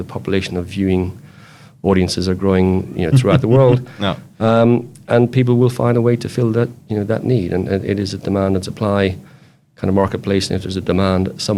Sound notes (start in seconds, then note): 2.7 chuckling